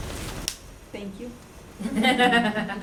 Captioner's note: laughs